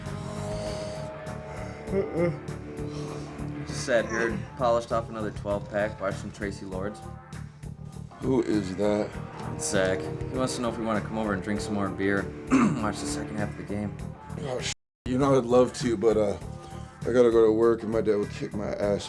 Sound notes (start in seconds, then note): 0.0 yawns